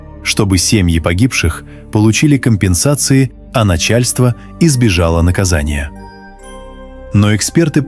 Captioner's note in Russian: колокольчик